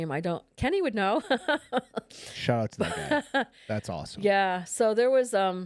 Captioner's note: laughs